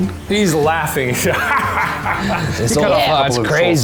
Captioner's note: laughs loudly